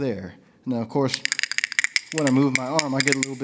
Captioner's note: bones click; bones rattle